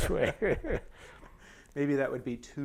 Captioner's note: laughter